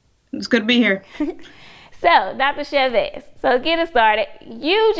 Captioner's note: giggles